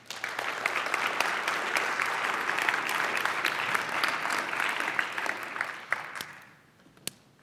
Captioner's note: applause